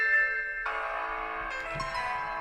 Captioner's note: alarm sound